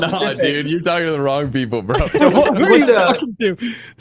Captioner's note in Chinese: 笑声